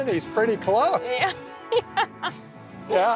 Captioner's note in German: Lachen